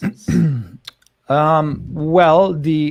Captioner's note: clears throat